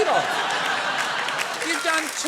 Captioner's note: laughter